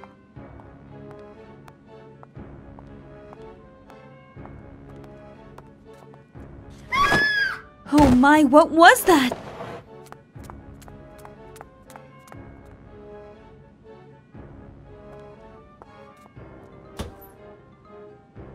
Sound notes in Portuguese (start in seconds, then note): 6.8 Grito